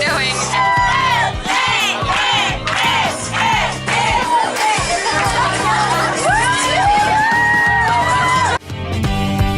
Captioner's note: applause